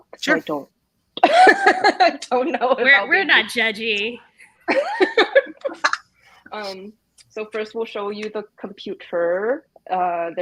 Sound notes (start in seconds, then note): 1.2 laughs; 4.7 everyone laughs